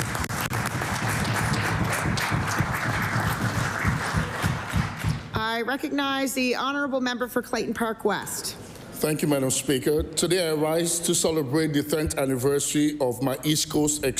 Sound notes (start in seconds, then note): 4.1 applause